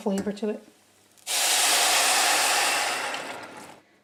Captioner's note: loud sizzle